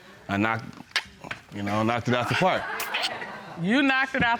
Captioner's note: clicks tongue